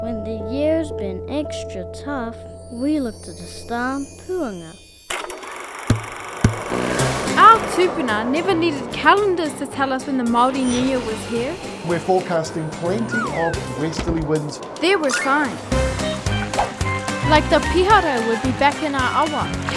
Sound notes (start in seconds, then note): 5.1 film projector whirring